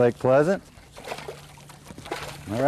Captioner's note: splash